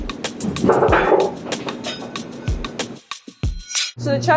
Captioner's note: hook clatters